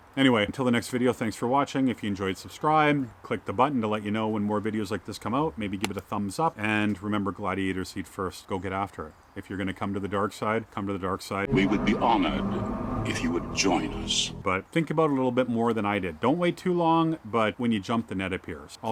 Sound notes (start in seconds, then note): 11.7 voiceover